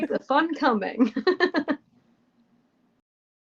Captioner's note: laughter